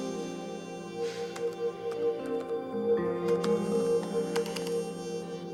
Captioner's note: bones crack; groans; keyboard clacks